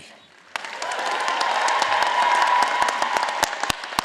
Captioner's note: all applauding